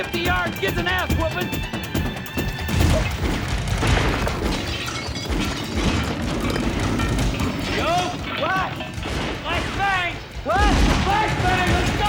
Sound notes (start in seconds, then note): 3.5 gunfire; 5.2 clattering